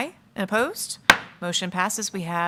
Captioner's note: gavel thudding